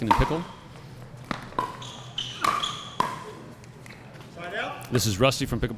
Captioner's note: ball being hit; shoes squeaking